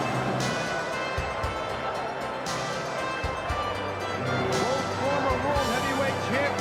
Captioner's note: crowd cheering